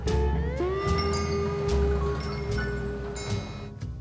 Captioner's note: wind chimes ring